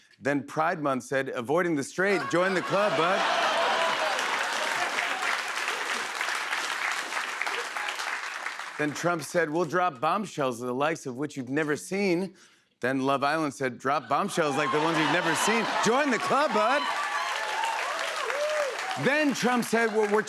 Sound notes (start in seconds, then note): 3.7 laughter and applause; 16.0 laughter, cheers, applause